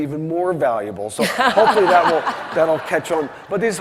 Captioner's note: laughing